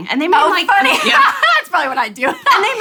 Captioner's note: laughs